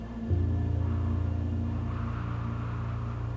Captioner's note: wind whistling